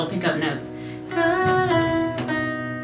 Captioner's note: humming